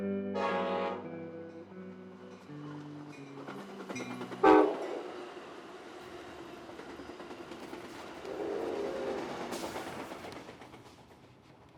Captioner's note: train horn blaring